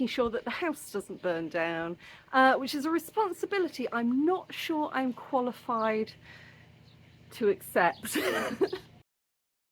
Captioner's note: laughing